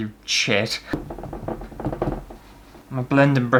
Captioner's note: tappy Sounds